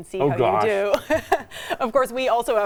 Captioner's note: laughing